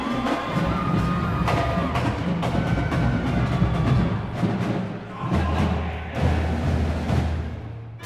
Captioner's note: cheering continues